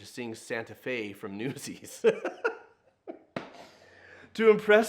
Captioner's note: laughing